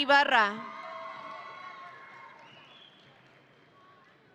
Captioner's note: audience cheering